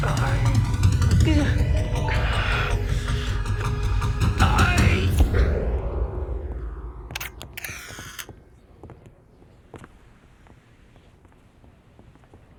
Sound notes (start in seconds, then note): 0.0 suspenseful music; 7.1 flashbulbs popping